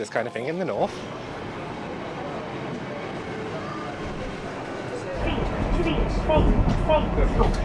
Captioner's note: train engine